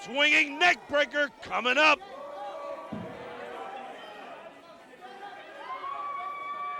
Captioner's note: crowd chatter